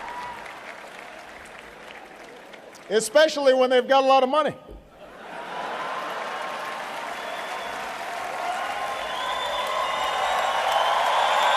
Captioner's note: laughter; laughter and applause